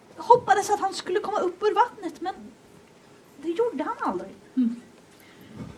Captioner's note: none